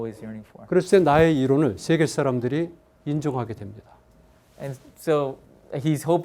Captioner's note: speaking in Korean